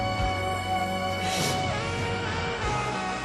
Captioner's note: sniffles